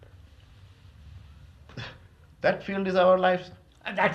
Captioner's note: laughs